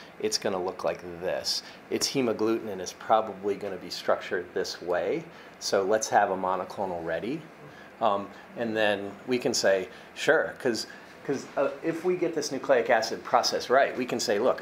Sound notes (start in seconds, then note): none